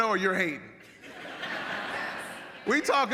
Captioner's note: audience laughs